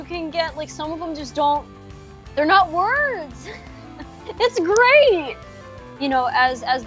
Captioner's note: laughs